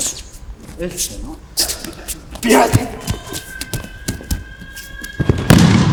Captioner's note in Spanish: sonido desplazamiento en tatami y caída